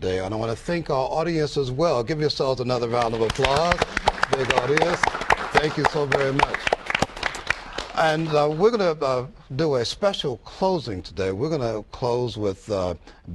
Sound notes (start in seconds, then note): 6.9 applause